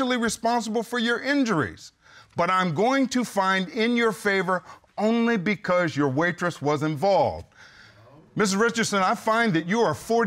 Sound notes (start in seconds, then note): none